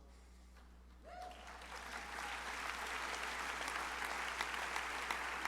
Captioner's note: crowd cheering and applauding